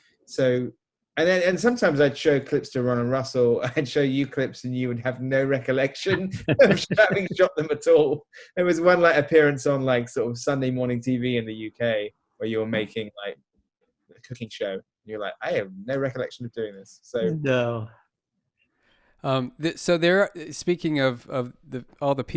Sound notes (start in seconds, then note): 6.4 speaker speaking in a low voice